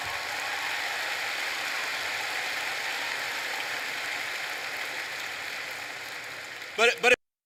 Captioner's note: applause